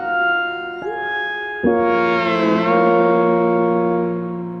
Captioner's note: phone chimes